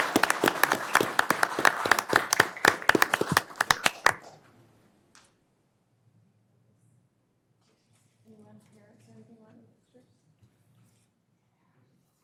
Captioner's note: applause